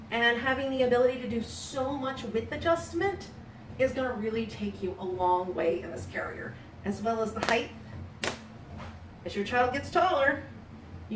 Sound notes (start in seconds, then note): 8.2 buttons snapping